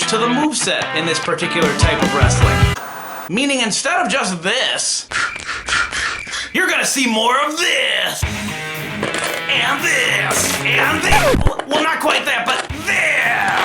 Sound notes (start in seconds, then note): 5.3 figures clanking; 8.2 upbeat music